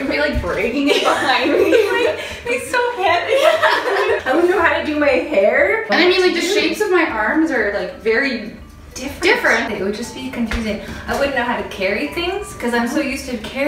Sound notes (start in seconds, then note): 3.3 both laugh